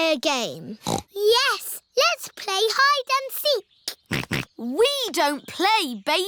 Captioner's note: snorts; snorting